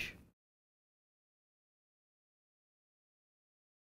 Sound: silence

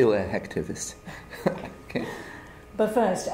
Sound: laughter

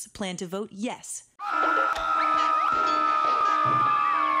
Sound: screaming

